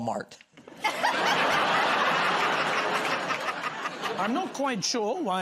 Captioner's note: laughter